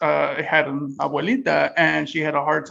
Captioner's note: speaks in Spanish